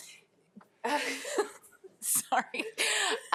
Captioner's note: board members laughing